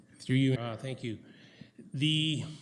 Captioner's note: audio drop